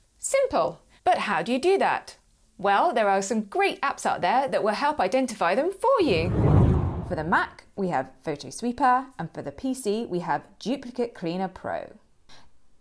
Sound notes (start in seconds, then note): 6.0 air swooshing